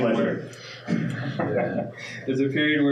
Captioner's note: laughing